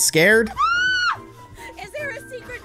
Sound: screams

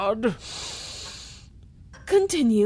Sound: inhales

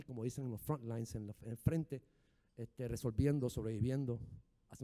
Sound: speaking in foreign language

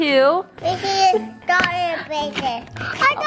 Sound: babbling; paper ripping

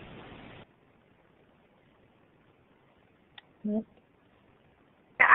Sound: silence

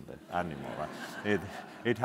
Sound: audience laughing

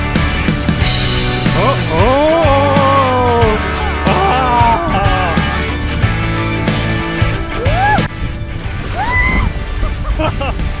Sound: yell in excitement

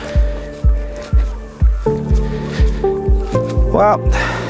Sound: dawn bird calls

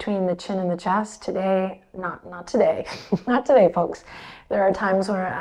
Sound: chuckles

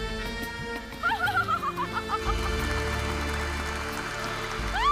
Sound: Wendy cackles; audience applauding

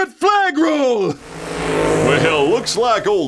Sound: car engine

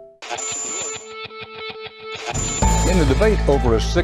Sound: pulsating sound begins

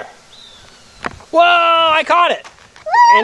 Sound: voiceover

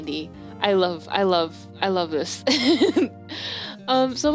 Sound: laugh

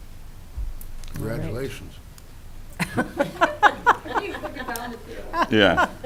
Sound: chuckling

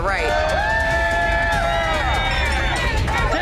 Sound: cheers

